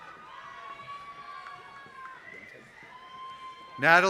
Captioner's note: applause